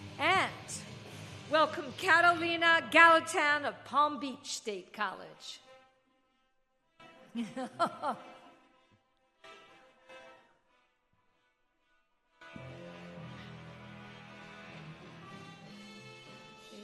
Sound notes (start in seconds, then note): 6.3 inspirational music; 7.3 laughing